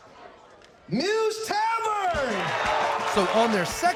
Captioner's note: crowd cheering, clapping